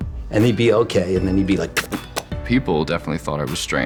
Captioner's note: beatboxes